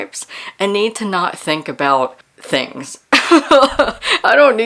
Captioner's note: laughs